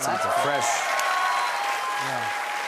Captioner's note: cheers and applause